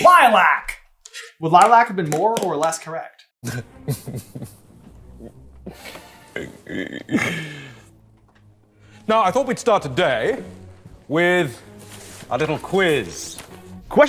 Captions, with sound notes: Lilac! Would lilac have been more or less correct? [smarmy, self-indulgent laughter] Now, I thought we'd start today with a little quiz.